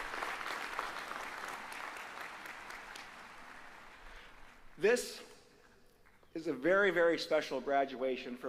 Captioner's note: applause